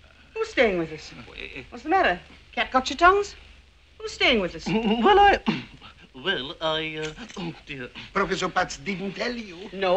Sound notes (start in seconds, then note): 5.7 voice cracking